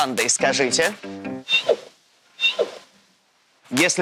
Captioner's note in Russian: звук панды 2